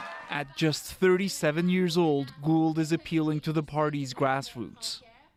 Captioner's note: cheers and Applause